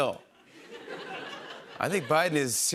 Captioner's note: laughter